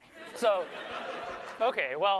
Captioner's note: laughter